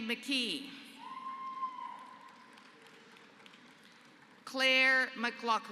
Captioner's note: applause